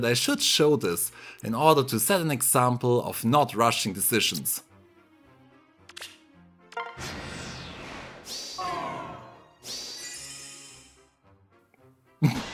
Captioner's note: heavy laughter